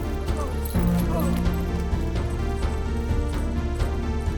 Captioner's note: struggling groans